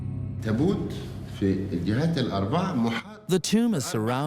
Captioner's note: Arabic dubbed in English